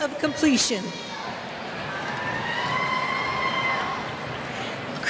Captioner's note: cheers